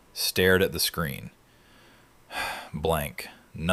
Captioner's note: sighs